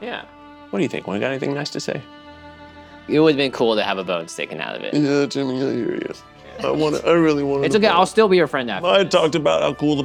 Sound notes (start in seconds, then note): 6.5 laughing